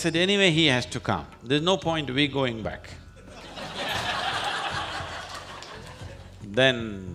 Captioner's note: laughter